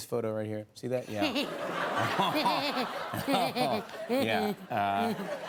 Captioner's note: laughter